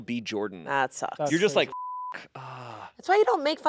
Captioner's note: beep